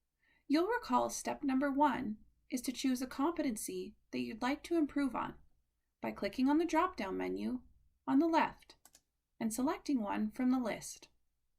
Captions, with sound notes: You'll recall step number one is to choose a competency that you'd like to improve on by clicking the dropdown menu on the left [Click] and selecting one from the list.